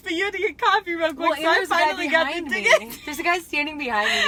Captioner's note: laughing